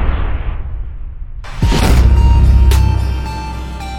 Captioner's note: dunk sound